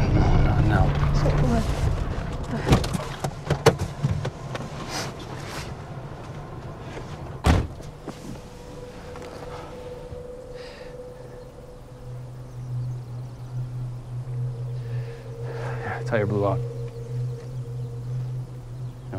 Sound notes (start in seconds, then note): 2.8 door unlatching; 4.8 Tyler sniffs; 7.4 door slams; 8.2 birds chirping; 8.2 tense music; 16.9 birds singing; 16.9 tense music